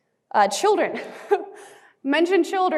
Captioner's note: chuckling